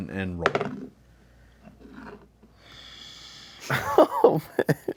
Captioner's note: dice roll